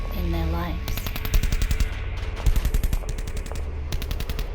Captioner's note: guns firing